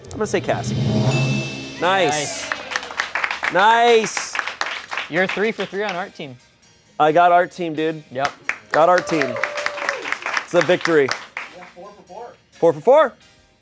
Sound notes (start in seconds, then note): 0.1 bell chimes; 1.9 crew applauds